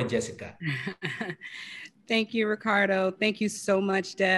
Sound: laugh

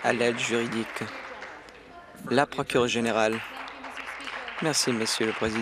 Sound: applause

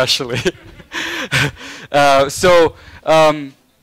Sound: laughing

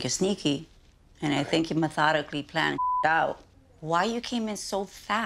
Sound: beep

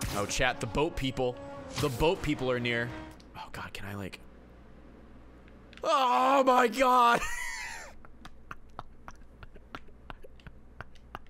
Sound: laughs

